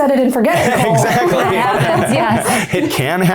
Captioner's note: all laughing